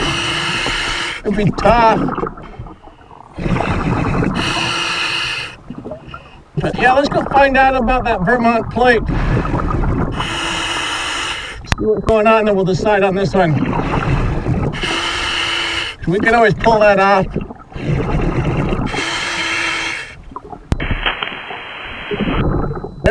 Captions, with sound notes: (water burbling) (regulator hissing) It'd be tough. (water burbling) (regulator hissing) But yeah, let's go find out about that Vermont plate. (water burbling) (regulator hissing) See what's going on, then we'll decide on this one. (water burbling) (regulator hissing) We can always pull that off. (water burbling) (regulator hissing)